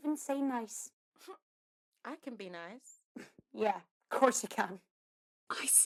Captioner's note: Mary sniffs